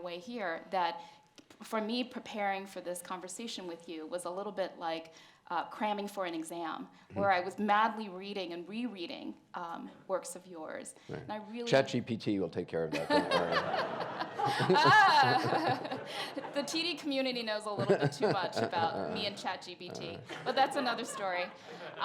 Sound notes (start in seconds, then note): 12.9 Anderson laughs; 13.0 and audience laughs